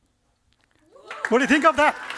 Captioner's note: cheering and applause